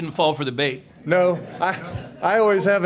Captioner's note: laughter